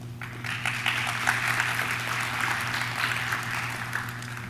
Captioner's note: audience claps